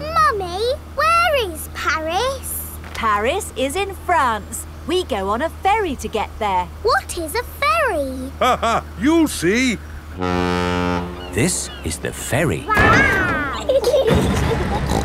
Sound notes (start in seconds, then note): 8.3 laughing; 10.1 ferry horn blows; 12.8 giggling; 14.8 snorts